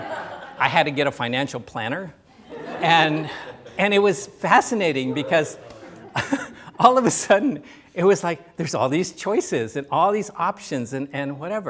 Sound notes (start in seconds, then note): 0.0 laughter; 2.2 quiet "woo-hoo!"; 2.3 laughter